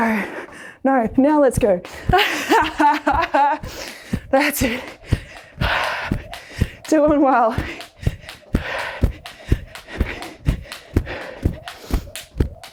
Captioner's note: laughs